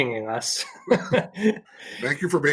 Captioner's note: laughing